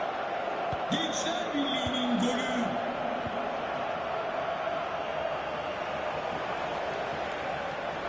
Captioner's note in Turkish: coşkulu tezahürat